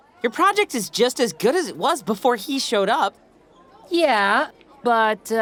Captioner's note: none